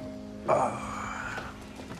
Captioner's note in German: Seufzen